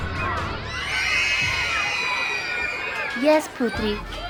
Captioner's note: children screaming